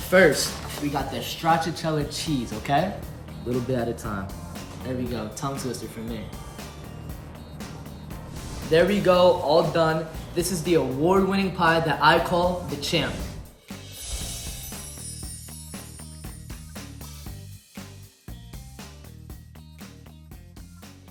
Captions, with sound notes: First we got the stracciatella cheese, okay? Little bit at a time. There we go. Tongue twister for me. There we go, all done. This is the award-winning pie that I call The Champ. (gentle music continues) (chiming)